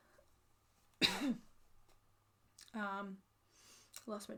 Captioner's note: coughs